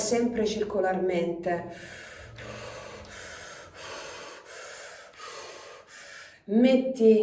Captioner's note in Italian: sospiri